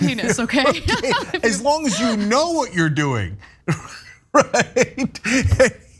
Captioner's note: laugh